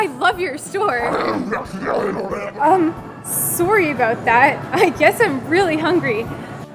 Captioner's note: gurgling again